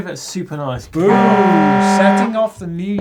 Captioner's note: horn blaring